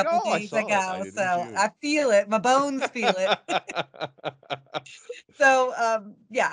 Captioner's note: laughing